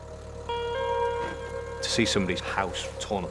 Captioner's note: tractor droning; gentle music